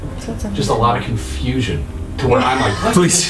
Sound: laughing

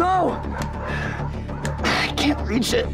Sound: dogs bark

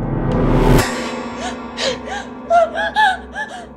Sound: suspenseful music; scared breathing

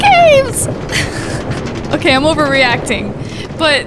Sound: laughing

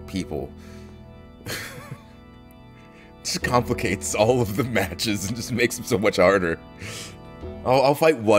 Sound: laugh

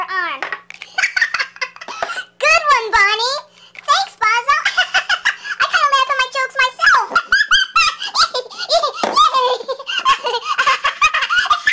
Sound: laughs; laughs again; starts laughing again

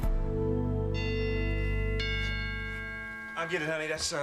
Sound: doorbell rings

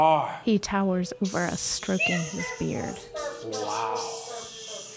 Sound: actors make sounds of dying stars

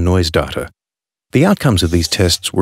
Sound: marker pen being drawn

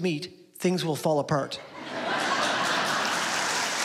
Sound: laughter

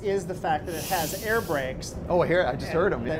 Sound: air whooshing

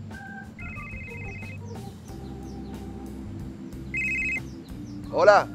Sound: telephone ringing

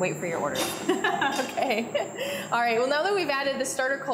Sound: laughs

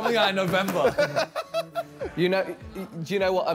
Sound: all laughing

